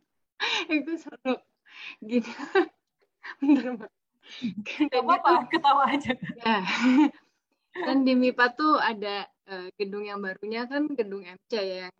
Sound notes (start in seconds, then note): 0.2 laughter; 4.6 laugh together